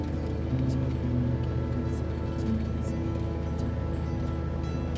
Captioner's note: whispering in foreign language